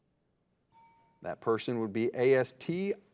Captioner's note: bell rings